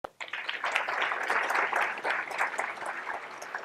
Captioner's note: applause